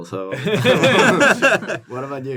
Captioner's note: laughter